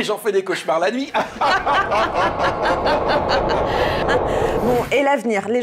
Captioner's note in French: rire